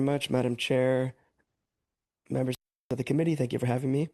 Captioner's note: speaking French